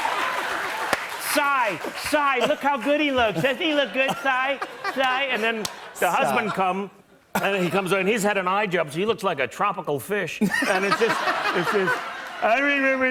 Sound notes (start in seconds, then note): 0.0 laughter continues; 10.4 laughter and applause